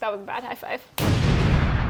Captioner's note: explosion rumbling